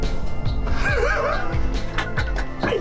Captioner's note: laughs